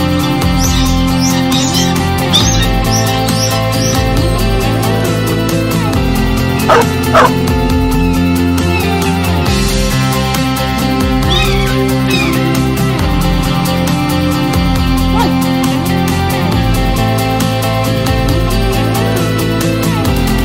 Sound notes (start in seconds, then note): 0.0 hawks: squawking; 8.6 hawk: screeching; 11.1 hawks: screeching; 15.1 yelp